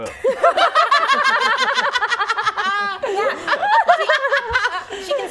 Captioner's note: laughing